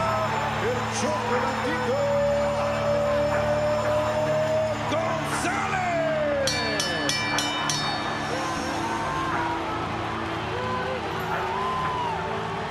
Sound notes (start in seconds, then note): 6.2 crowd cheering; 6.4 bell dinging